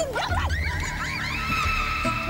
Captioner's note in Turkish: Bağırıyorlar